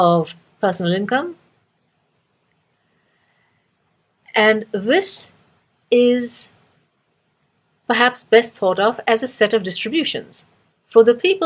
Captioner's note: pause